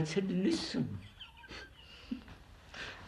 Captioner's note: laughs